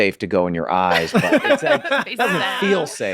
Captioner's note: Meg and Charlie laughing